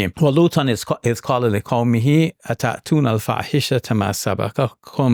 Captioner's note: speaking in Arabic